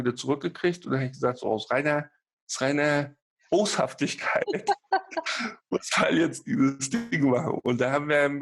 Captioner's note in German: lacht